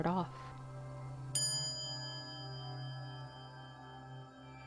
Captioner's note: quiet chime